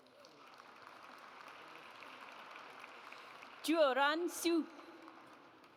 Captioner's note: audience applauds